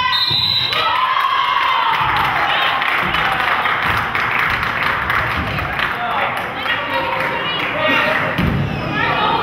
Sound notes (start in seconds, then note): 0.0 whistle blows; 1.6 crowd cheers